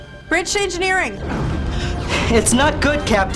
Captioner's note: explosion